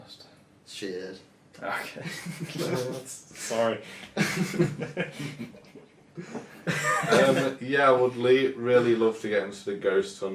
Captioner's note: laughing